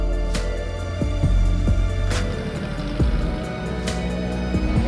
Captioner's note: car engine roaring